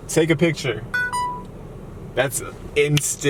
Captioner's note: beeps